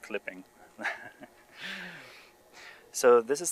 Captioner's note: laughs